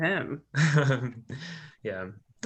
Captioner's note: laughing